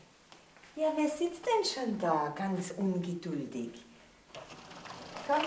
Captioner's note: speaks in foreign language